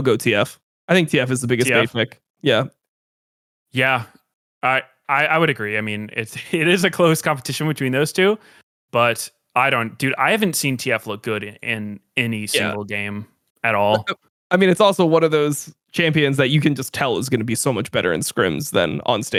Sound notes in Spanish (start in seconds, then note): 6.2 risas